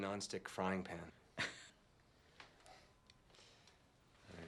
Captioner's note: chuckles